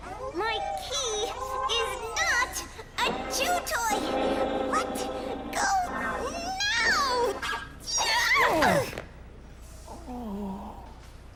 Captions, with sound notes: My key is not a chew toy! (GROWLING) Let go now! (SHRIEKING) (GROANING)